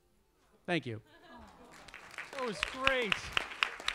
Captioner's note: audience applauds